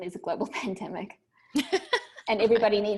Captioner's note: laughing